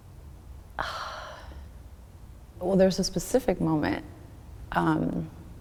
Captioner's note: sighs